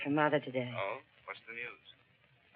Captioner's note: on phone